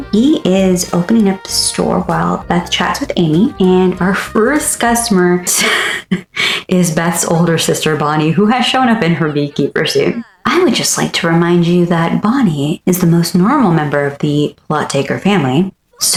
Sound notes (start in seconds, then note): 7.8 laugh